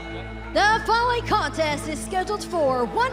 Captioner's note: bell ringing